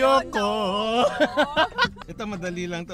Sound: laughs

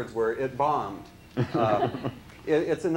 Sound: laughs

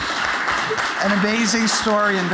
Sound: applause

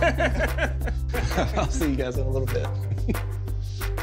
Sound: laughing

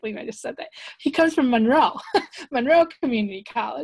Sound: laughs

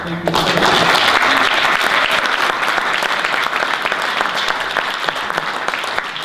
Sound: audience applause

